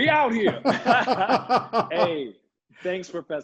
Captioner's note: both laughing